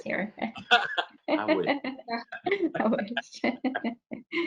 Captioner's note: laughing